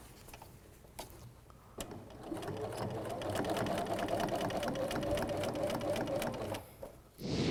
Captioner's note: sound of sewing machine